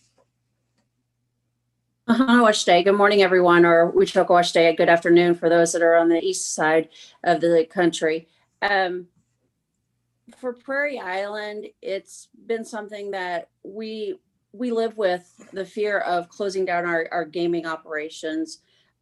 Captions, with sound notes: - (speaking foreign language) Good morning, everyone. Or (speaking foreign language), good afternoon, for those that are on the east side of the country. For Prairie Island, it's been something that we live with, the fear of closing down our gaming operations